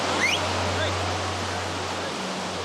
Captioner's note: lifeguard whistles